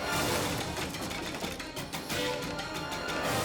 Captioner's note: sign smashes